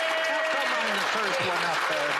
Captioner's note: applause